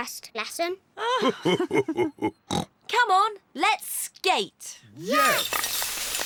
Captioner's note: both laugh